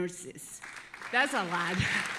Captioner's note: audience applauding